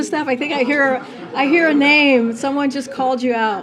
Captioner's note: laughter